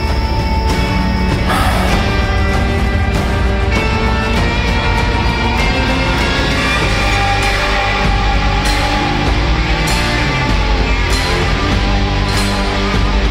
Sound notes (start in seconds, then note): 1.4 sigh